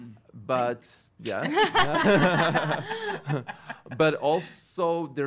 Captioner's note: all laughing